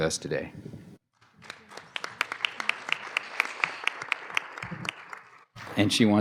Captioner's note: applause